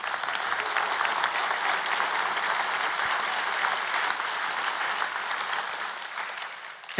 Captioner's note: applause